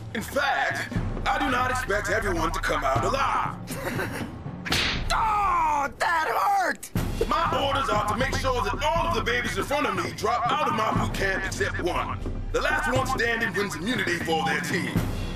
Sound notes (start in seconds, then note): 3.6 Owen Chuckles